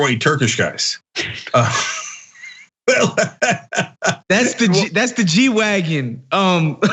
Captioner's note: laugh